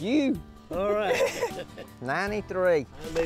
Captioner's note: laughter